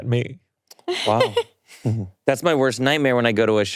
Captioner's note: laughing